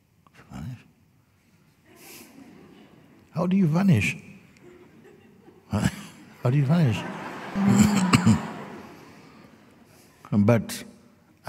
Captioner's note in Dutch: gelach